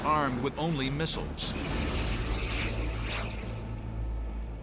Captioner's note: jet engine noises